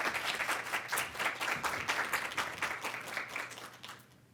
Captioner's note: audience clapping